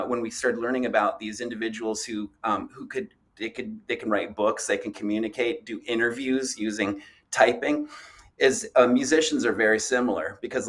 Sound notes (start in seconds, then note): none